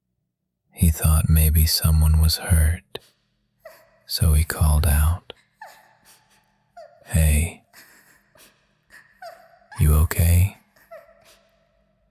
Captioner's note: short breath; pause